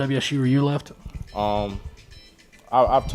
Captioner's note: cell phone rings